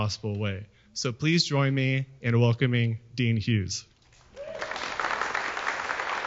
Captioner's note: applause